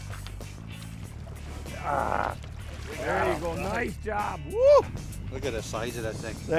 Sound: grunting

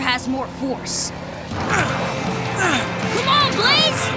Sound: grunting

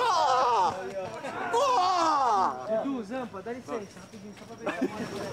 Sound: whooping

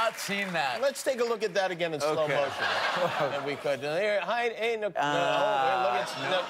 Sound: cheers and applause

